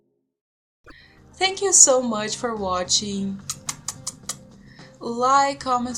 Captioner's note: mwah mwah